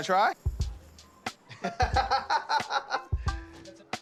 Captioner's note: laughing